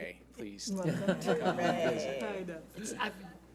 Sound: laughs

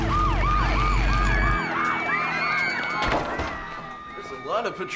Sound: kids screaming

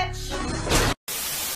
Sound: gunshot; TV Static

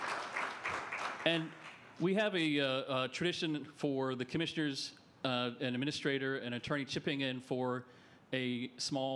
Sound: applause

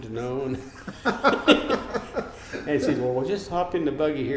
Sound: laughing

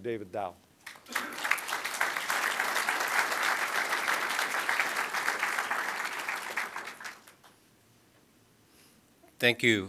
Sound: applause

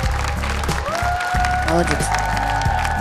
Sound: applause

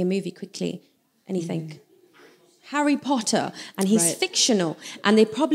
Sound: shout from audience

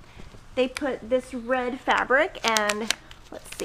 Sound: paper crinkling

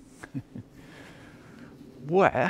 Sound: chuckling

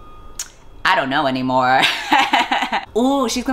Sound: laughs

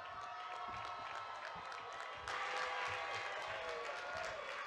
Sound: audience cheers

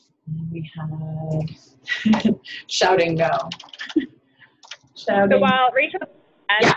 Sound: chuckles

